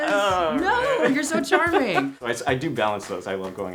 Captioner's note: laughs